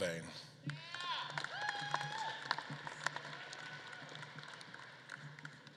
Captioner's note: audience claps and cheers